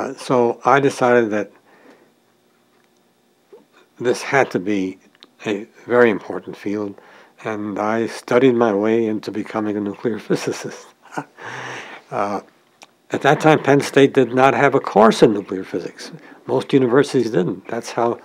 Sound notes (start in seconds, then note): 10.9 chuckle